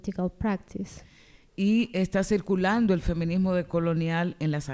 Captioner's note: speaking spanish